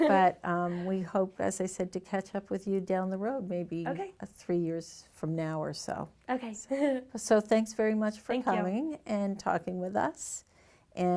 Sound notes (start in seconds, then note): 6.7 chuckles